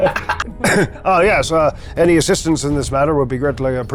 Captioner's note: players laughing